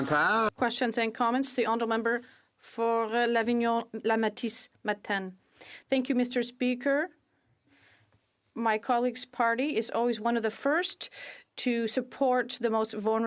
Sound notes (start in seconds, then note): 7.7 speaking FRENCH